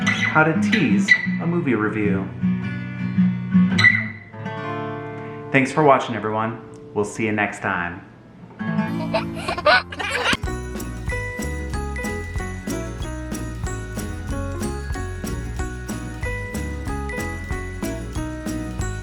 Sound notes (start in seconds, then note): 8.9 giggling